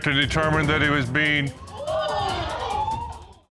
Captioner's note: audience gasps